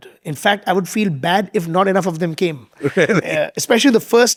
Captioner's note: chuckling